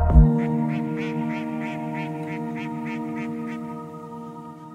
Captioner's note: geese honking